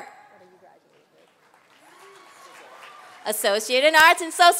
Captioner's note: applause